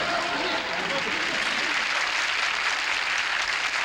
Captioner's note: applause